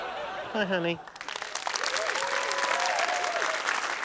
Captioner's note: laughter; applause, cheering